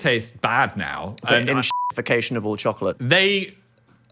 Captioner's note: beep